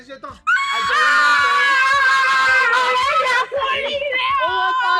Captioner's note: excited